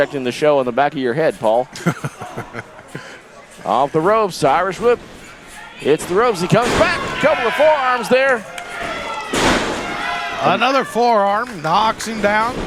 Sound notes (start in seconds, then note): 1.5 laughs